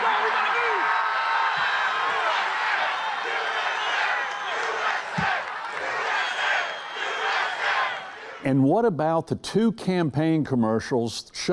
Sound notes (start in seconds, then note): 0.0 crowd